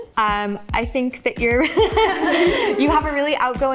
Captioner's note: laughs